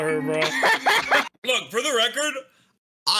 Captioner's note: laughs